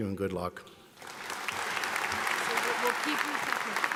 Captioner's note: audience applauds